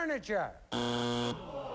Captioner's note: buzzer